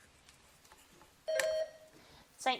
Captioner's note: bell dings